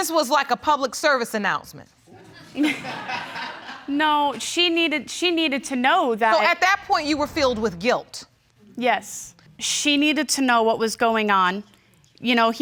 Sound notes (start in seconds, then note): 2.8 laughing